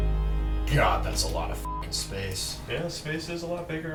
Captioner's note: beep